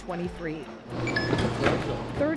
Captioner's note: electronic chirp